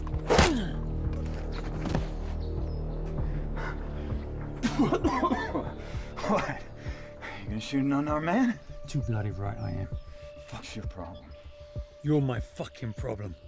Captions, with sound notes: [coughs] What? You going to shoot unarmed man? Too bloody right, I am. What's your problem? You're my fucking problem.